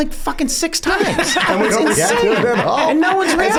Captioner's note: Charlie laughs